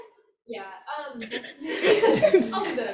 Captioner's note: audience laughs